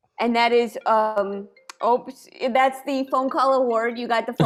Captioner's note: cell phone rings